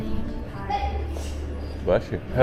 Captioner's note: achoo